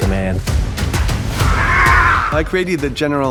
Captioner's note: growls